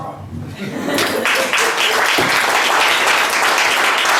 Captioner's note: guests applaud